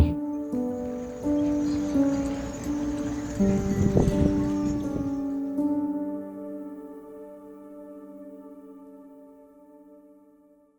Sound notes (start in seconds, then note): 1.3 orchestral music ending; 2.7 horses trotting